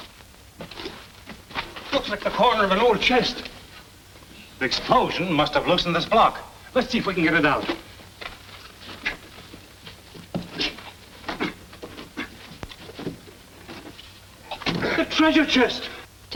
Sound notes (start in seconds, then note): 0.5 foot Steps; 10.5 breathing Heavily